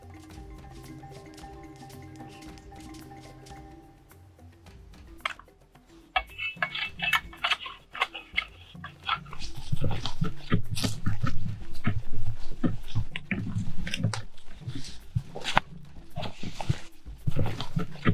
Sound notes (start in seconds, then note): 6.1 panga Scratching